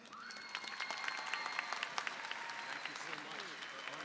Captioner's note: applause and cheering